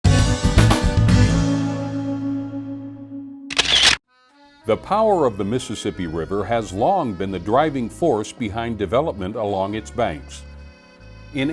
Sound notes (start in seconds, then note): 0.0 upbeat music; 3.5 camera clicking